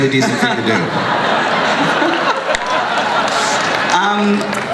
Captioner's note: crowd laughs